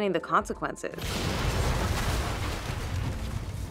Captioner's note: explosion sounds